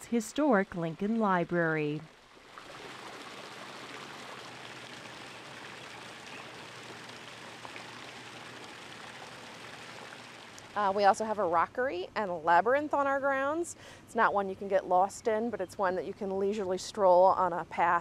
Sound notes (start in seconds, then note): 3.8 water Running